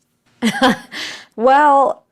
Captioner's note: laughing